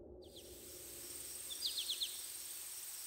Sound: birds sounds

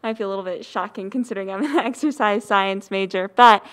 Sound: laughs

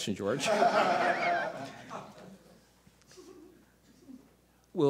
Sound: audience laughter

